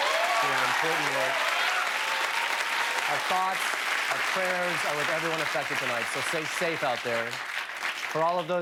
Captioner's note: cheers and applause